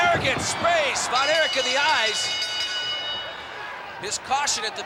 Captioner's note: bell rings